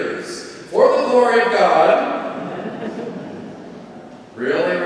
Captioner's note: congregation laughing